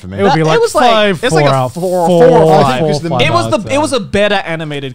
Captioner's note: murmurs